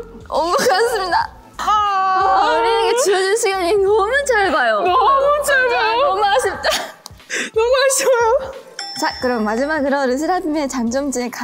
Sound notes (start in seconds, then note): 1.6 sobbing together